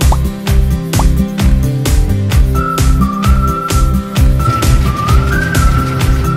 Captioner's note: pop